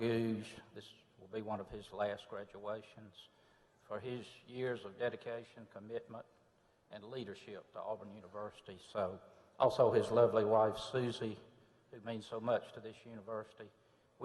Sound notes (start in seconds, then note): none